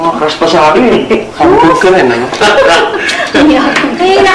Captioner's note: laughter